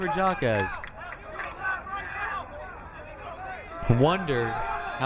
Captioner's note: crowd cheering